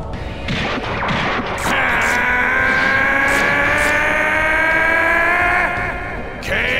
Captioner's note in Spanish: Gritos